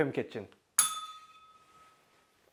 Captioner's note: bell rings